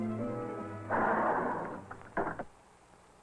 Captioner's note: door slides